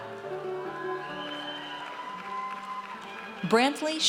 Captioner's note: audience cheers